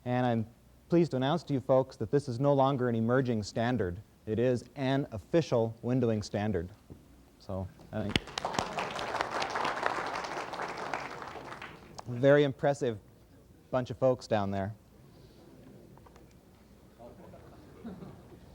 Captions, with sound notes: And I'm pleased to announce to you folks that this is no longer an emerging standard. It is an official windowing standard. [APPLAUSE] Very impressive bunch of folks down there.